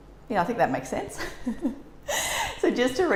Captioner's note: giggles